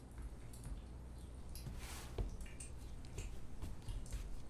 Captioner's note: footsteps tapping